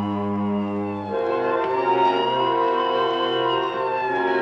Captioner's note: siren wailing